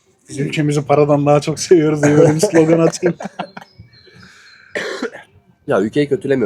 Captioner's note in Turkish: kahkaha